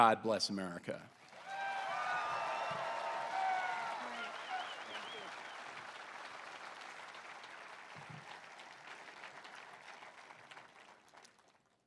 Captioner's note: applause